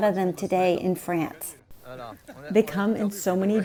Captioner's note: background chatter